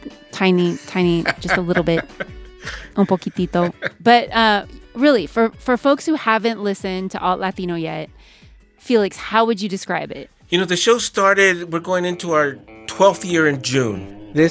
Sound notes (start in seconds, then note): 3.5 non-English language spoken; 5.0 laughter